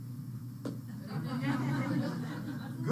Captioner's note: laughter